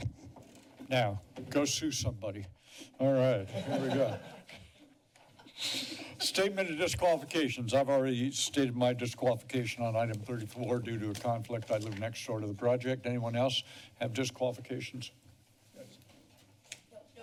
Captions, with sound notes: - Now, go sue somebody. All right, here we go. [laughter] Statement of disqualifications. I've already stated my disqualification on Item 34. Due to a conflict, I live next door to the project. Anyone else have disqualifications? - Yes.